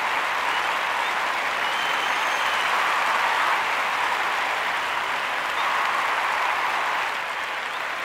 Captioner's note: applause